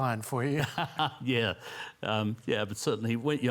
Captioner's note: laughs